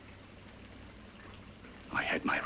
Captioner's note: liquids bubbling